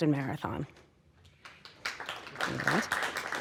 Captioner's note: audience applauding